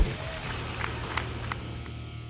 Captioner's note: applause and cheering